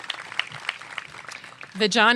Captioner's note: applause